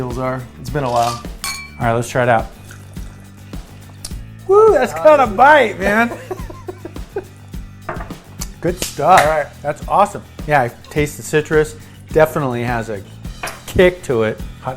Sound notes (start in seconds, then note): 0.9 glasses clink; 6.0 laughter